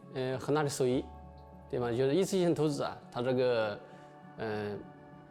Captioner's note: speaking chinese